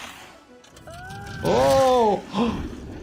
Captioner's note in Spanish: Jack Frost gruñendo; niño gritando; Doctor jadeando